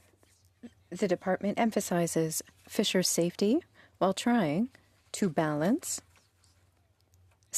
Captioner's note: speaking French